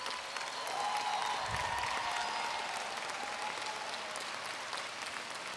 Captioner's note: applause